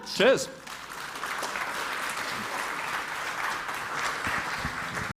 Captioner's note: applause